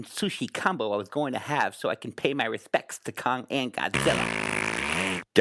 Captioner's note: farts